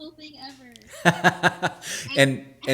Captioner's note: laughing